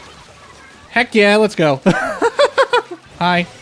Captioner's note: laughter